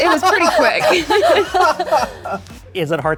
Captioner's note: laughter